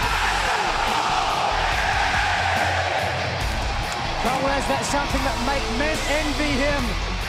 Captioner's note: fans chanting